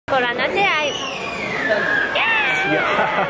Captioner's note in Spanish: gritos de niño; imita los gritos